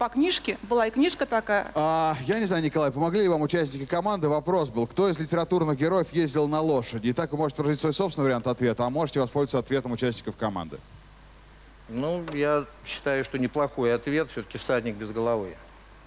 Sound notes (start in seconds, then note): none